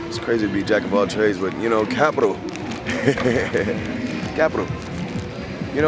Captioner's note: laughing